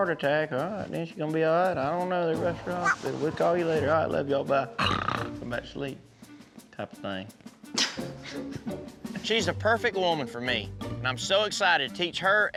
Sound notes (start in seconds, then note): 4.9 snores; 7.7 chuckles